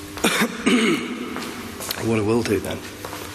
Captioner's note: clears throat